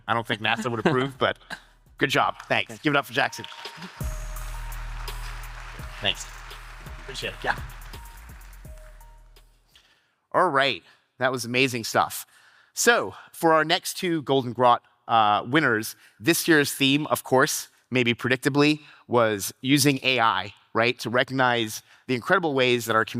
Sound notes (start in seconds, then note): 4.4 audience applauding; 4.4 upbeat electronic music